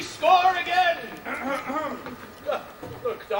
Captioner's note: Don Pedro clears his throat